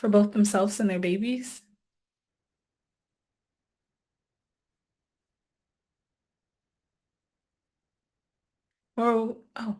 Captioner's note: silence